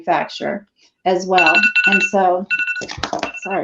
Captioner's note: phone rings again